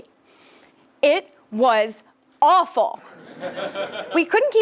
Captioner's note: laugh